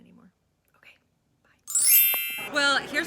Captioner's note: chiming